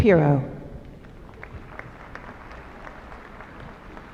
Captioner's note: applause